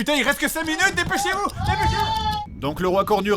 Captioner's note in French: Cris de panique